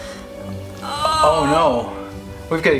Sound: mom grunts

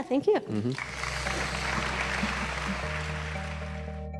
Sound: applause; mellow music

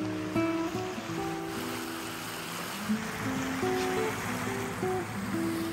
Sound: water splashing towards the hull

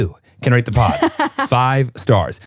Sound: laughing

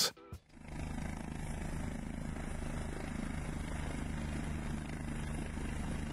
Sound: helicopter engine roaring

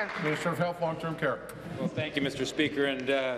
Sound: applause

